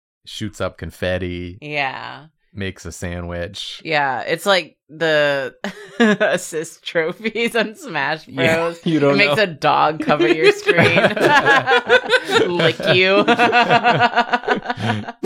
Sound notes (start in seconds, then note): 5.3 laughs; 10.0 laughter; 12.8 laughs